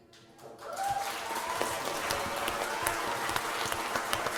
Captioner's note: applause